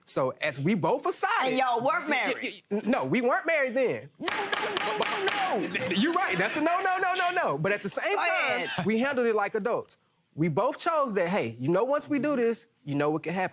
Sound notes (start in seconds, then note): 4.0 banging gavel